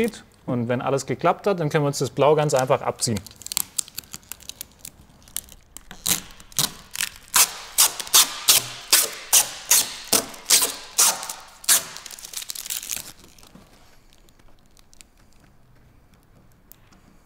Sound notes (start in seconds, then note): 6.1 tearing noises